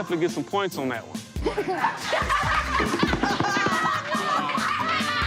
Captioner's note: everyone cheering